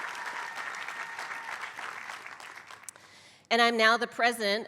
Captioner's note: applause